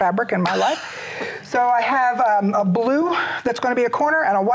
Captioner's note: laughs